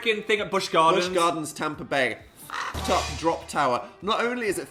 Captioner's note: squawk